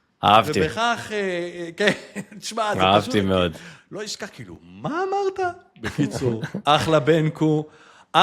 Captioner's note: laughter